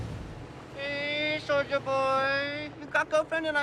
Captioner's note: speaks in mocking foreign female accent